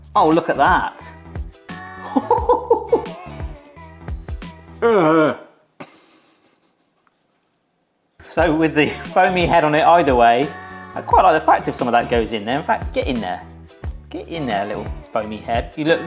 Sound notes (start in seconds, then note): 2.0 chuckles; 4.7 sniggering